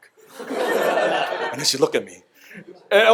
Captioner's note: audience laughter